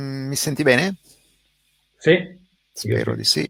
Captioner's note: speaking in foreign language; speaks in foreign language